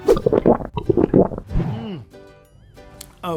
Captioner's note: gulping